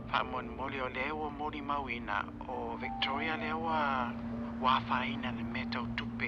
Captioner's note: none